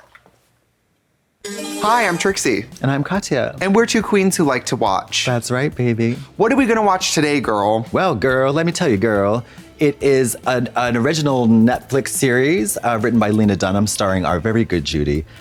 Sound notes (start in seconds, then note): 1.4 bright chime